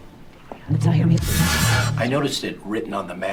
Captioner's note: vortex rushes